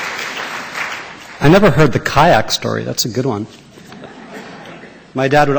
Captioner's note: applause; laughter